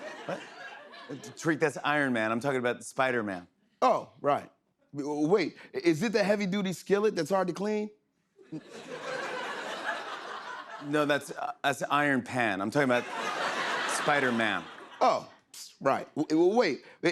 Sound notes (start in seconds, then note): 0.0 light laughter; 8.4 laughter